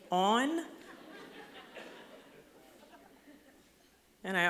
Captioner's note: laughter